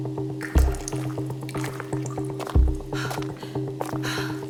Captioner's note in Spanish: pasos chapoteando; Respiración agitada